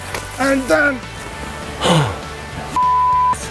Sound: gasps

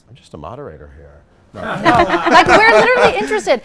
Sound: laughs

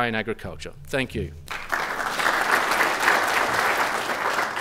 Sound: clapping

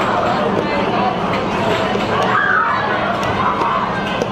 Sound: players chattering

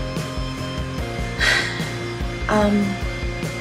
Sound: sigh

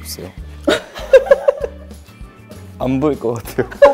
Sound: hahahahahahaha

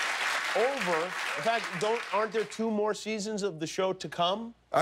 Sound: cheers and applause

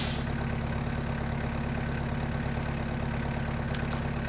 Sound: engine runs

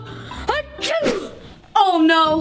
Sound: sneezing

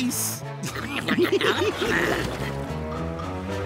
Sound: laughing

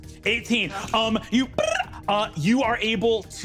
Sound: electronic sound

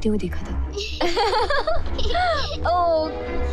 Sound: laughs

